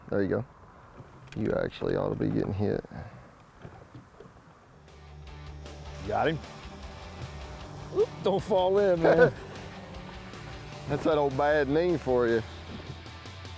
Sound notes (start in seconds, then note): 9.5 laughs